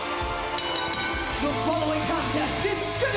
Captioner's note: bell ringing